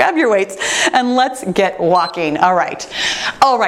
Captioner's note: timer beeps